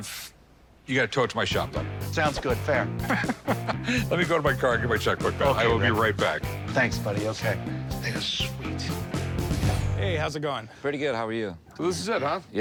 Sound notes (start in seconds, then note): 3.0 laughs